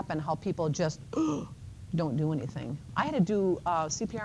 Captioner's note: gasps